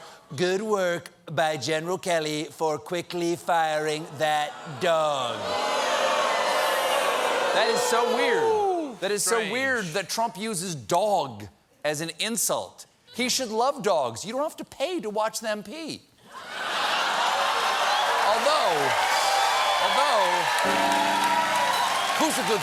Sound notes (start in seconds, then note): 16.4 laughter; 17.0 applause